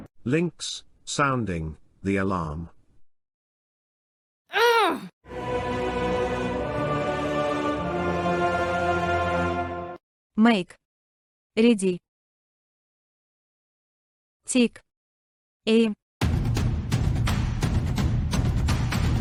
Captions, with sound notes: Linx Sounding The Alarm ! [Loud Grunt] [Evil Choir] Make Ready ! Take Aim ! [War Drums]